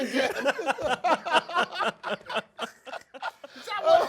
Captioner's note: laughs